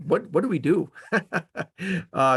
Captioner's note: laughing